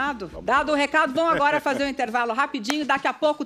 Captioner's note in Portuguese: risos